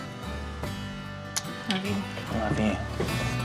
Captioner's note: smooch